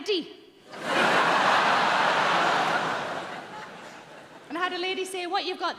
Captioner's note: audience laughing